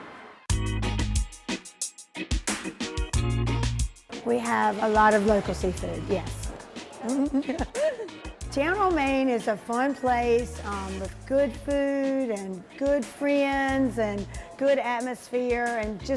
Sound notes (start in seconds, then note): 0.9 upbeat music; 6.9 laughs